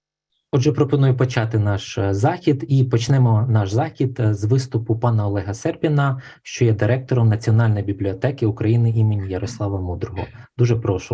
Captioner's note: foreign Language Spoken